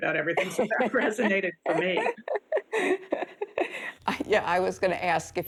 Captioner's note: chuckles